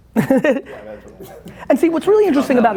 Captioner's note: laughs